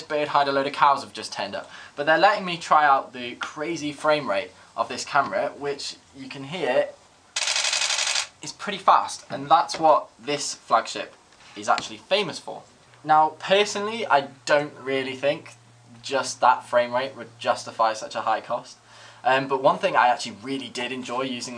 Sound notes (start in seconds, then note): 7.3 fast camera clicking